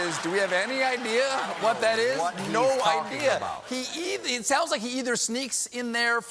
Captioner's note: laughter